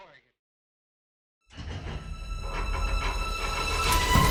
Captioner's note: metal clanking